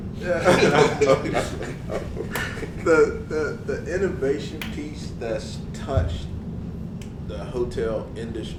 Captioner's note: laugh